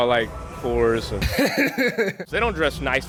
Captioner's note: laughs